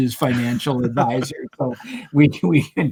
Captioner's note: laughs